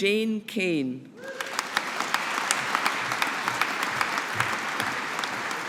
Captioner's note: audience applauding